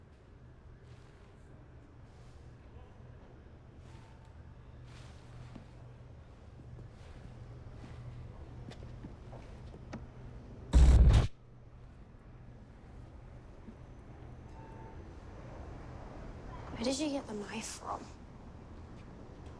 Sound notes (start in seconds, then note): 10.7 crack